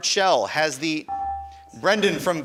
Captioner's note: buzzer dinging